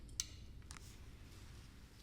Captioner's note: switch clicks